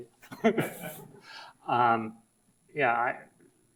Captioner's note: audience laughs